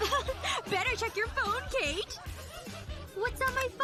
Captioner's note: laughs